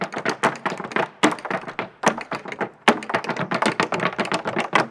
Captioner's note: shoes tapping